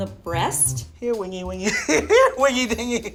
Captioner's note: laughs